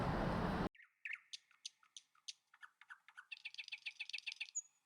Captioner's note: birds chirping